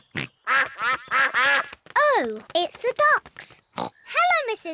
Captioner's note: quacking